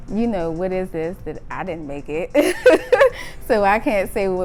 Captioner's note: laughs